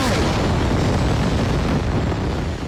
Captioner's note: rocket sounds